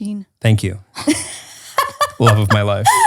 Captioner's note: laughs